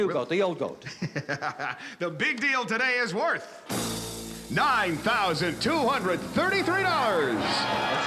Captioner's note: laughs